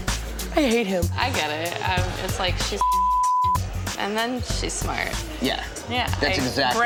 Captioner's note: beep